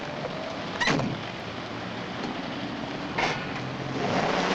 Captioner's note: car door bangs shut; motor revving